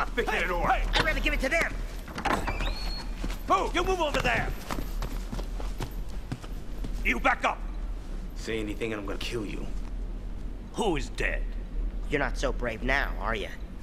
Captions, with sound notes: - Who you calling a thick headed orc? - I'd rather give it to them! (door opening) - You move over there! You back up! - Say anything, I'm going to kill you. - Who is dead? - You're not so brave now, are you?